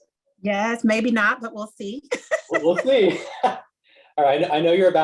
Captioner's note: laugh